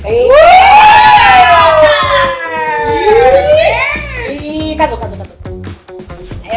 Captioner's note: just cheering and shouting no sense